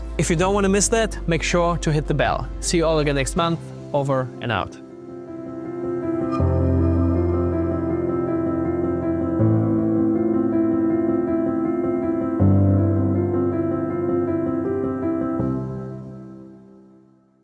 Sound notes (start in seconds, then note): 6.1 uplifting music; 6.2 badge chimes